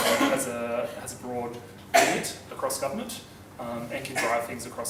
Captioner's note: cough